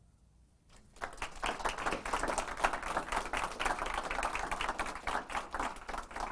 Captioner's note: audience applause